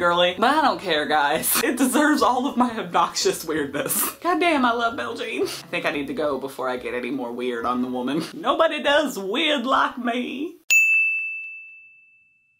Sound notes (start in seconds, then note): 10.6 ding!